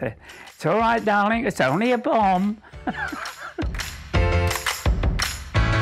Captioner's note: laughs